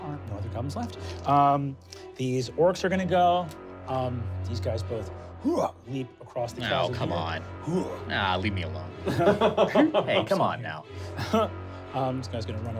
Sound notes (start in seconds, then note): 5.6 grunts; 9.0 laughing